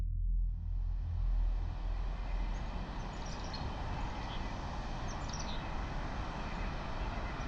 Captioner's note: wind howling; birds chirping